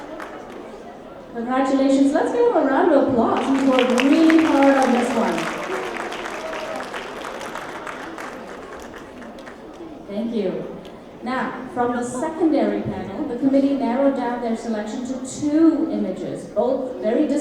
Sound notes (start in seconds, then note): 3.2 applause